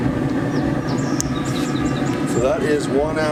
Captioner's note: birds chirping